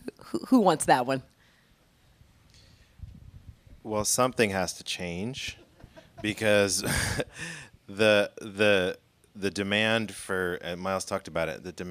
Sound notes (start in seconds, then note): 5.5 laughing